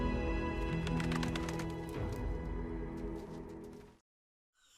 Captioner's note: gulls wings flapping